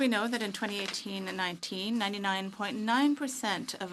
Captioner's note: speaking French